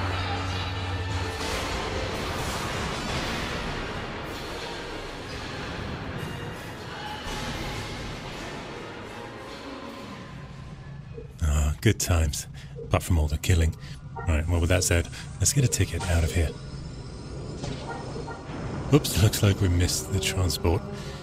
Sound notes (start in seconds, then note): 1.6 lightsabers buzzing and humming; 17.4 digital noises